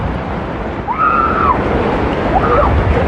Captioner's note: excititeded scrcreaeam